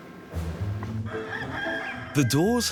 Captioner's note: upbeat music; rooster calling